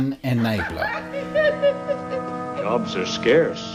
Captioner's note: Ma laughing